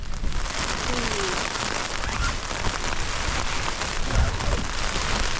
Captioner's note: sudden heavy rain